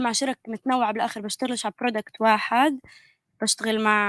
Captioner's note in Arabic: لغة أجنبية